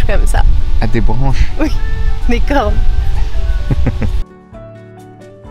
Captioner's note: laughs